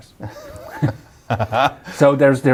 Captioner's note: laughing